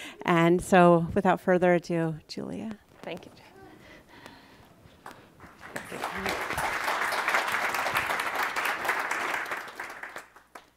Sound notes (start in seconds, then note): 5.3 audience applauds